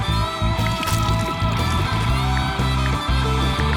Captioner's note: rock music; paint splattering; ticking